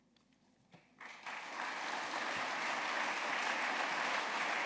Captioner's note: applause